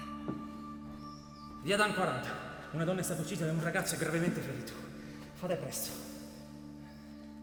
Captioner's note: on phone